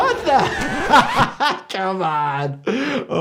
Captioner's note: doctor laughing